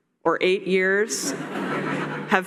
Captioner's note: laughter